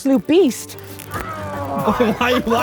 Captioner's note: shirt tearing